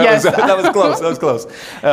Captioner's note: laughs